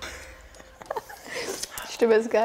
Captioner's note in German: Lachen